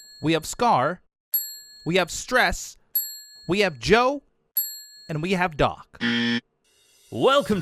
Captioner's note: ding; ding